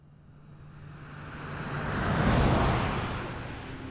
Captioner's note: vehicle passing